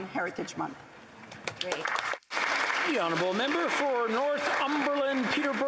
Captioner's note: speaking italian